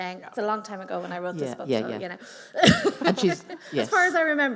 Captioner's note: laughs